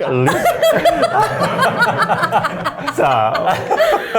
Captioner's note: laughs